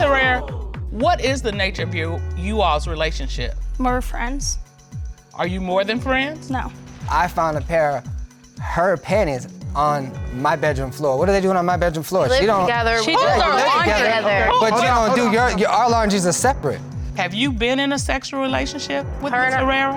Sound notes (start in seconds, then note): 13.7 stammers